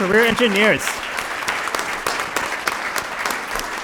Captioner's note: applause